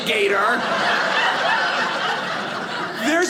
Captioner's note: audience laughing